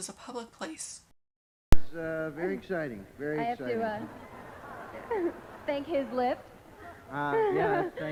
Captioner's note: laugh